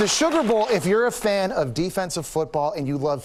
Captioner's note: applause